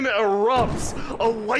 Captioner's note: explosion